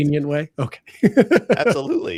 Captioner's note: laughs